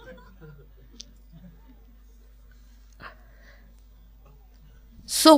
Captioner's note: laughter